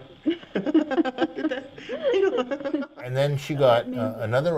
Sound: laugh

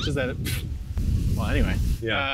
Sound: scoffs

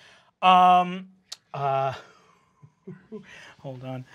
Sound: chuckles

